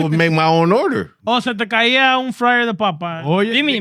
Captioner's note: speaking Foreign Language